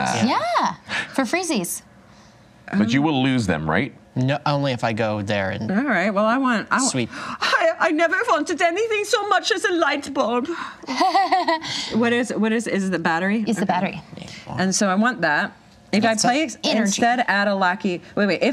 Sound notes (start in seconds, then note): 7.9 imitating German accent; 10.8 fake laugh